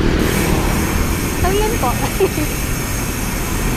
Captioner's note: laughs